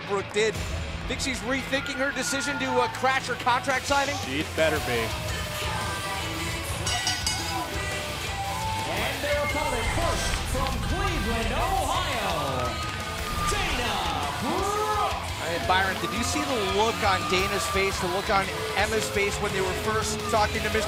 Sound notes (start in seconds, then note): 10.0 bell ringing; 10.9 crowd chatter